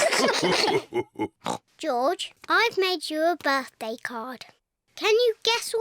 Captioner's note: all laugh; oinks